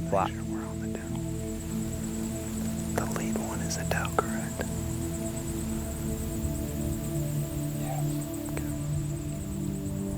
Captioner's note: whispering